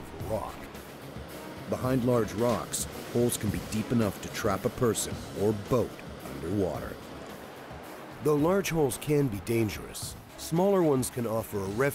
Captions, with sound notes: - [Voiceover] An eddy is typically a calm spot where the water is almost still and moving gently. A hole on the other hand is formed when water pours over the top of the rock.